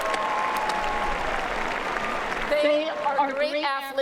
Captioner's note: applause